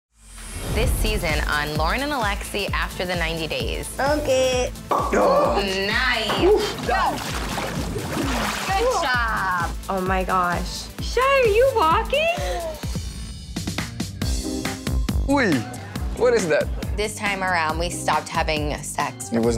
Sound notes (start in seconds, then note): 4.8 cork pops; 12.1 mid-tempo music playing